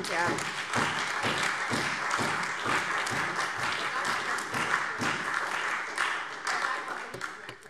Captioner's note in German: Beifall SPD